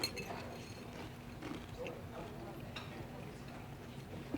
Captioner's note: chewing